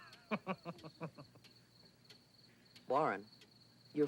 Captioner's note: Edmund chuckles